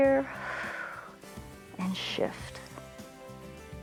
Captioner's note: exhales